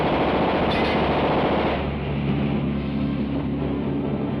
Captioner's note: bullets hitting metal